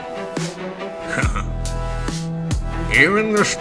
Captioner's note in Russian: хмыкает